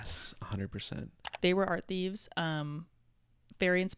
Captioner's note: computer mouse clicking